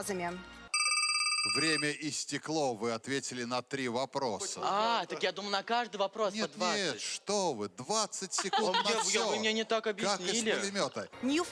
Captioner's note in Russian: звонок